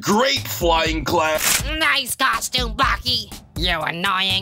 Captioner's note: stretching noise